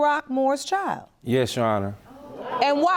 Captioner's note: audience murmuring